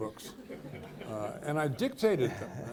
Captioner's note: people laughing